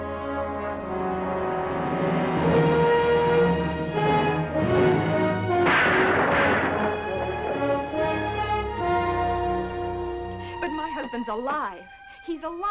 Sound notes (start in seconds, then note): 5.6 gunshots